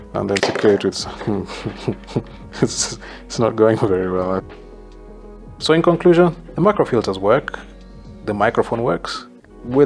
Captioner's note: laughter